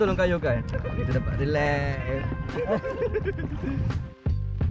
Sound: laugh

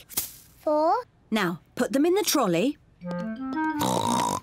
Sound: oinks

